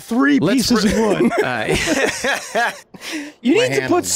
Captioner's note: everyone laughing